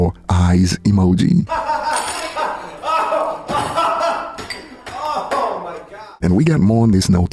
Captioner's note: laughs sarcastically